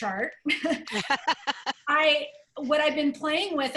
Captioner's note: laughter